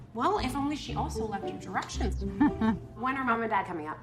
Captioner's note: chuckling